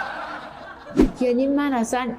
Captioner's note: laughter